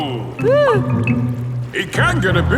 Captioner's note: whimpers